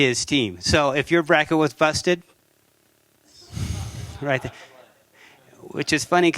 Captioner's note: laughter